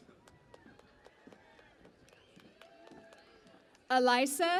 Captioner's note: cheering and Applause